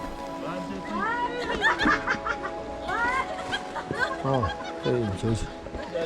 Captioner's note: Tourists' laughter